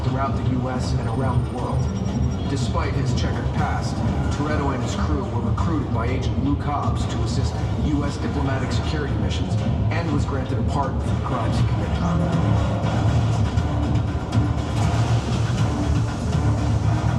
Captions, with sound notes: throughout the US and around the world. (electronics chirp) Despite his checkered past, Toretto and his crew were recruited by Agent Lou Cobbs to assist us diplomatic security missions and was granted a pardon for crimes he committed.